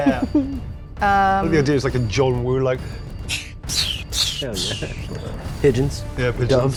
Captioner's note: whistling